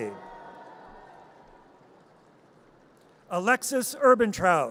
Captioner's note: audience cheers